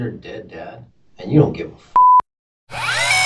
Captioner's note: beep